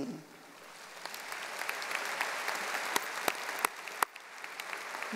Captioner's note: audience applauding